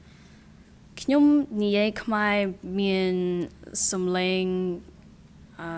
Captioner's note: speaking in a foreign language